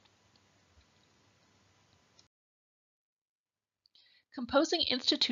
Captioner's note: silence